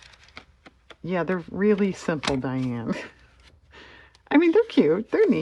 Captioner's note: laughs